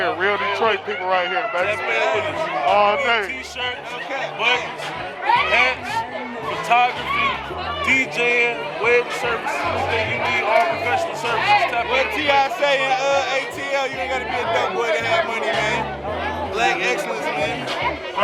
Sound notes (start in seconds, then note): 11.8 people chattering